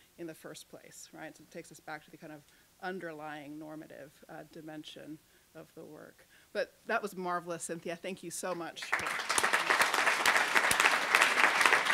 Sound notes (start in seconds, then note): 8.8 applause